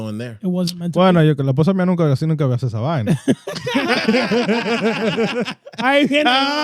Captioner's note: laughing; speaking In Foreign Language